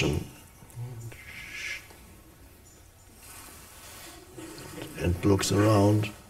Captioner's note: Eckhart whooshes